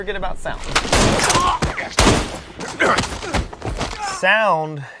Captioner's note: gun shots blasting